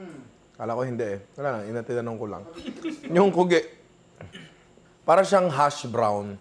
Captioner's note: laughs